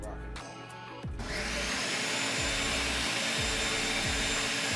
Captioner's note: blender whirs